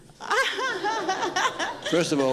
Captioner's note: laughs